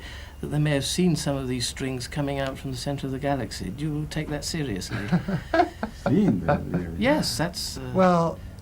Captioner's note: laughter